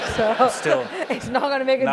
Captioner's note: laugh